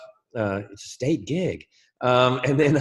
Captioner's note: laughs